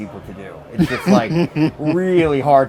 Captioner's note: laughs